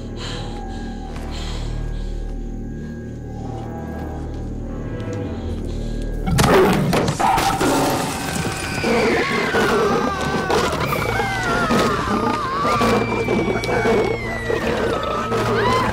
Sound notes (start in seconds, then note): 6.8 Growling; 7.6 All Screaming; 10.9 Man Screaming